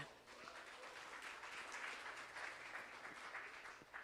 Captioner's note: applause